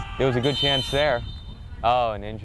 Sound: whistle blows

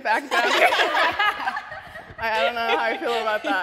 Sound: laughter

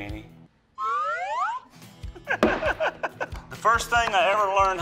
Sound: laughter

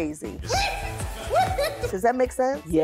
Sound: laughing

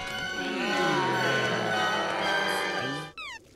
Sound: moaning

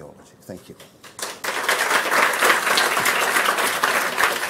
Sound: audience applauds

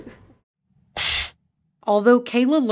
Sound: machine blasting air

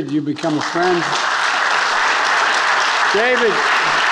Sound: attendees applauding

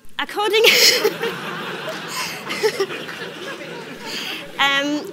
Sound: audience laughs

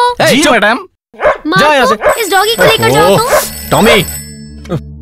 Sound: phone rings

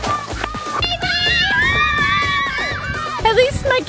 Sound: children cheering

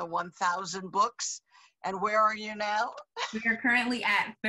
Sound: laughs

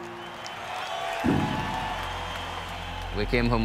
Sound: crowd cheering

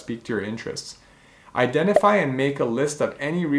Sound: bubble popping

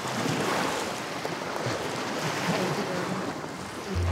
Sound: waves lightly splashing

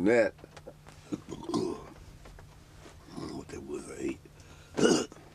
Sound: burps

